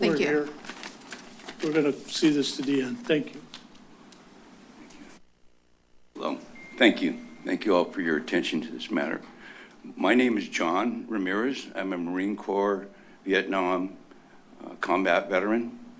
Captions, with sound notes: - Thank you. - We're here. [paper rustles] - We're going to see this to the end. - Thank you. - Well, thank you. Thank you all for your attention to this matter. My name is John Ramirez. I'm a Marine Corps Vietnam combat veteran.